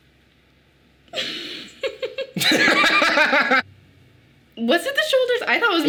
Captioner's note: both laughing